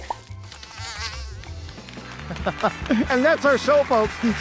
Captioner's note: bug buzzing